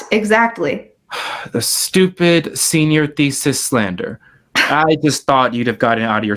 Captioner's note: sighs